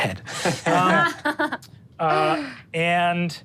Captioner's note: all laughing